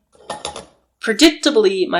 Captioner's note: sound of crashing pots and pans